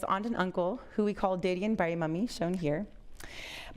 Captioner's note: foreign language